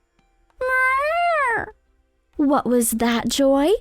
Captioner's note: Joy meows